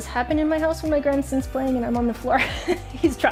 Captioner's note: laughing